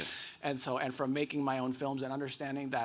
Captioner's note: none